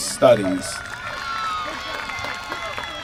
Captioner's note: applause